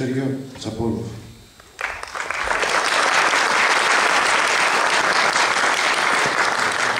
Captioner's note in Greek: Χειροκροτήματα από το ακροατήριο